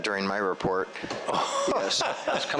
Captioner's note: laughs